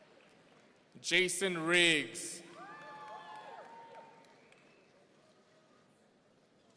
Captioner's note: audience cheering